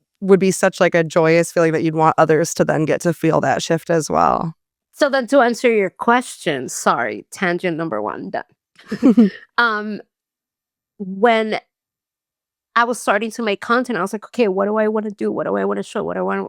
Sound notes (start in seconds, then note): 8.8 all laughing